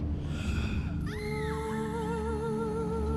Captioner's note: woman screaming in distance